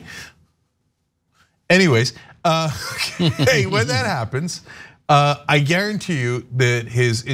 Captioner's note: laugh